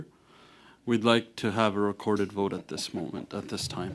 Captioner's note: speaking French